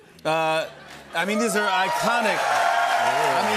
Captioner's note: cheers and applause